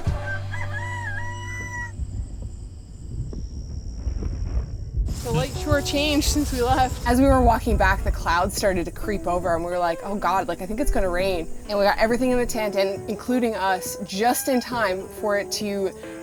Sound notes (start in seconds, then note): 0.0 rooster Call; 2.1 thunder rolls in the background